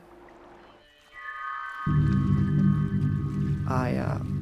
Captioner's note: water trickling